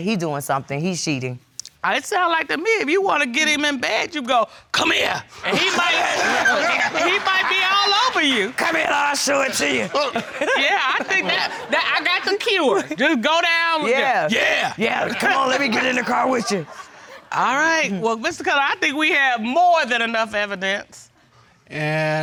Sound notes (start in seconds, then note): 5.1 deep voice; 5.5 all laugh; 9.0 deep voice; 10.5 laughs; 14.1 deep voice; 14.8 chuckles; 15.5 deep voice